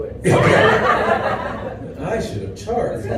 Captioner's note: laughter